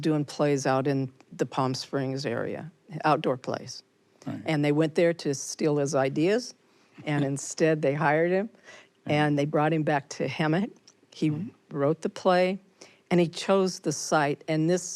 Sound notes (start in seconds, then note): 7.0 chuckles